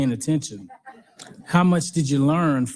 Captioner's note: audience laughing